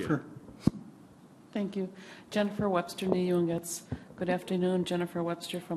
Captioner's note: native American language